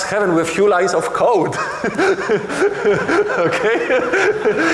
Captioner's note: laughing